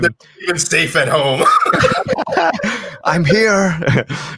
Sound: both laugh

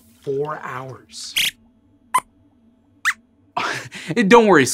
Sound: squeaks squeaks

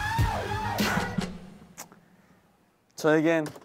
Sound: silence

